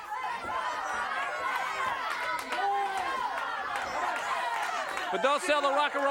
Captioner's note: applause